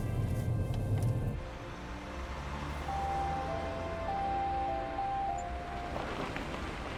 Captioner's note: gentle music continues; traffic whooshing; gravel crunching